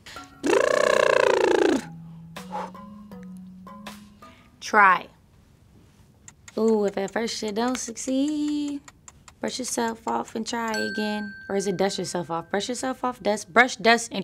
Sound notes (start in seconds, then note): 0.1 vocal warmup; 6.2 clock ticking